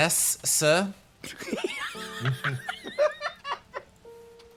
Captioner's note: multiple Laughs